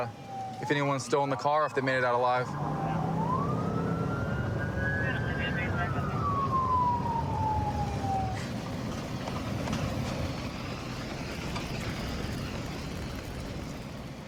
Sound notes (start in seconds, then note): 2.3 police sirens blaring; 4.9 dispatch chatter